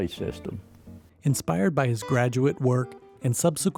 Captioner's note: voiceover